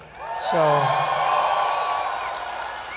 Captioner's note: cheers